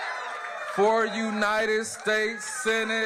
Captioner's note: applause